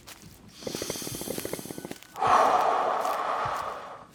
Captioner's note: gasping